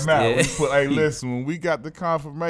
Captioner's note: laughs